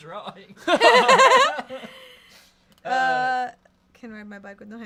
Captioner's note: everyone laughs